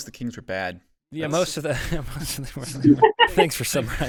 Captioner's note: all laughing